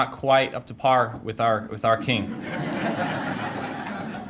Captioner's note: audience laughter